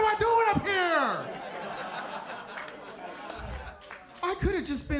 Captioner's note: audience laughs